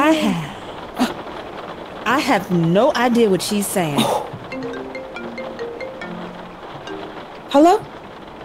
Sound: phone rings

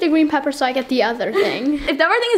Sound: laughter

